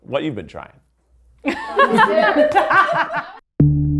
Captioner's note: everyone laughs